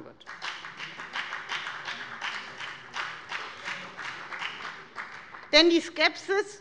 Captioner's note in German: Beifall bei der FDP und bei Abgeordneten der CDU